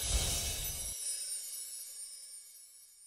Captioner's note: chimes